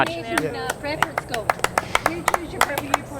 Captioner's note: applause